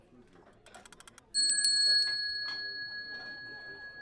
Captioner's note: bell rings